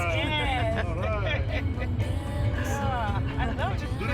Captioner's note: laughter